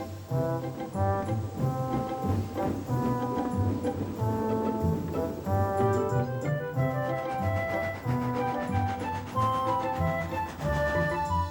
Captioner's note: puffing, tooting